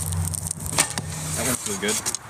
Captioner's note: bowstring twangs